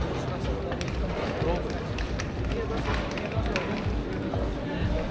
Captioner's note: people chattering